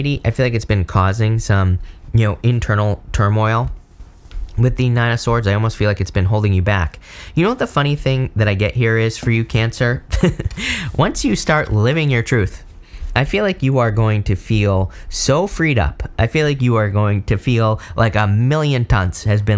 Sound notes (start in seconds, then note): 10.1 laughs